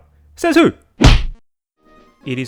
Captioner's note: whack